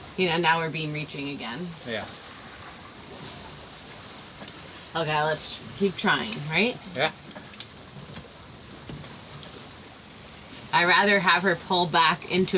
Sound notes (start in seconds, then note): none